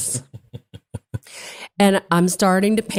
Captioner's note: laugh